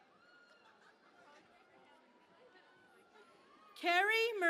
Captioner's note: cheering and Applause